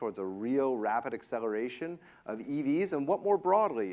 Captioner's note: none